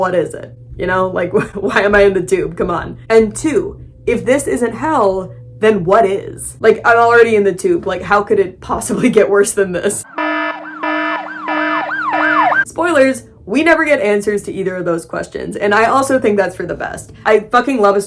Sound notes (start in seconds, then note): 1.7 laughing; 10.0 alarms & sirens blaring